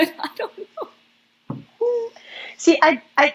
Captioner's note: laugh